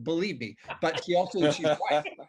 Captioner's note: everybody laughing